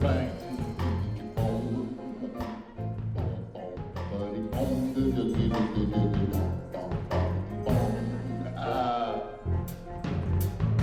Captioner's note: humming